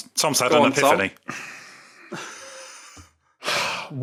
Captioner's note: exhales stiffly; wheezes softly